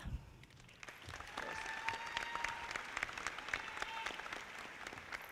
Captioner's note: audience applauding